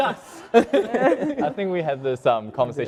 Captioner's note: laugh